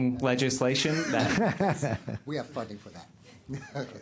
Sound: laughter

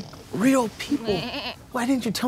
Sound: bleats

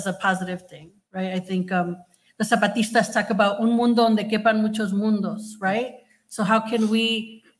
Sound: speaking Spanish

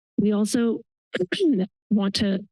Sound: coughs

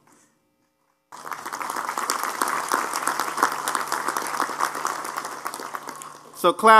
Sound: applause

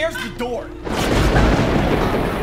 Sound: thunder rumble

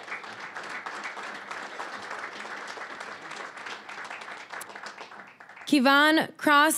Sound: applause

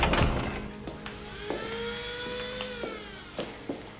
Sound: grinder whirring

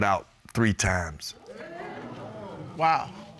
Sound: audience hooting

